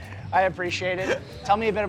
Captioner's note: laughter